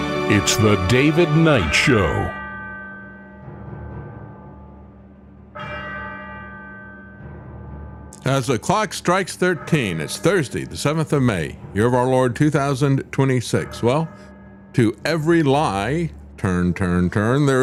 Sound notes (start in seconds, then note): 5.5 bell Ringing